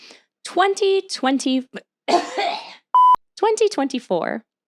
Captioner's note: coughing